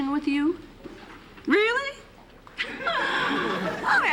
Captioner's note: laughs